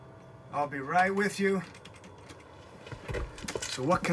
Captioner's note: typing